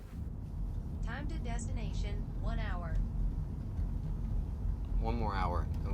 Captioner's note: on phone